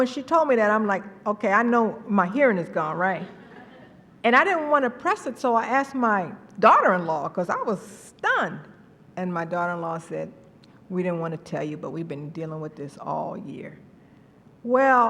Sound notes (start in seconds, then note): 3.2 laughter